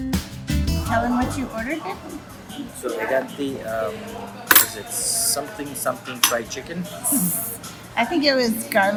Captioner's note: laughter